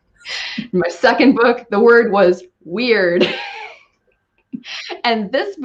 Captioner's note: laughing